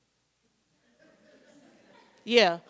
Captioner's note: scattered laughter